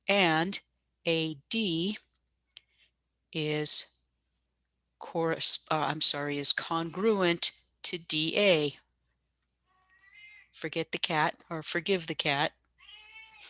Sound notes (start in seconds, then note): 12.8 cat meows in background